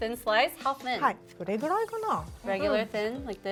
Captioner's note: speaking Japanese